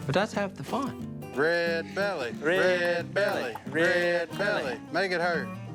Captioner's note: chanting